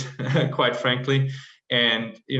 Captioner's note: laugh